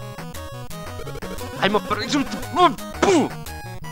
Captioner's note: nervous cries